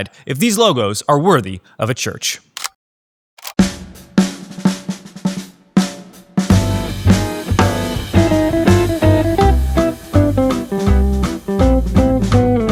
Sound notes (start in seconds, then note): 2.6 upbeat jazz music playing; 3.4 camera clicking